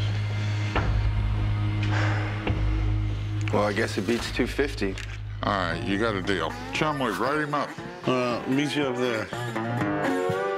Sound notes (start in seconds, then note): 1.8 huffs